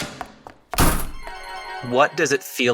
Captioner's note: shoe heels clack quickly along pavement; door slams; magical chimes ring